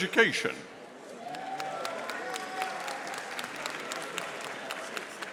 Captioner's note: audience applauding